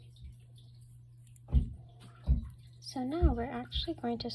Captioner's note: toddler neighbor stomping sounds